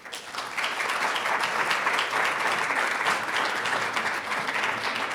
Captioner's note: audience applauding